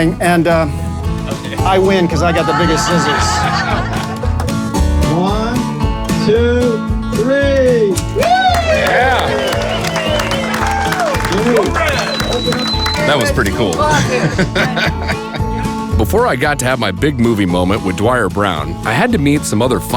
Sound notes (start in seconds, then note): 4.0 crowd laughing; 7.9 crowd cheering; 14.1 laughing